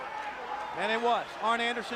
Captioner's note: crowd chatter